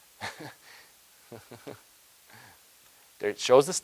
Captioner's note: chuckles